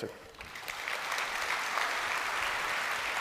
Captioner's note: applause